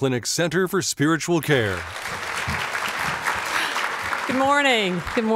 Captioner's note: applause